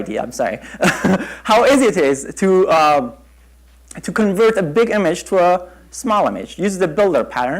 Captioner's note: chuckle